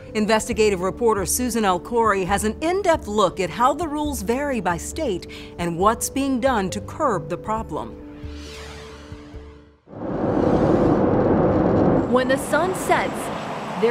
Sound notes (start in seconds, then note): 8.2 screen whooshing